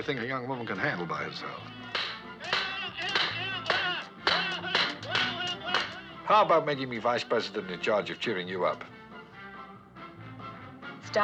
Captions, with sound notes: It doesn't sound like the sort of thing a young woman can handle by herself. - [Shouting] - [Blows Landing] How about making me vice president in charge of cheering you up?